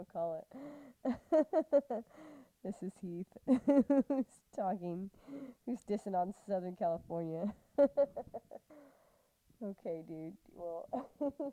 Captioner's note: laughing